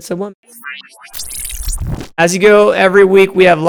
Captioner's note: electric whooshing